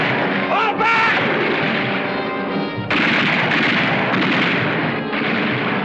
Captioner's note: guns firing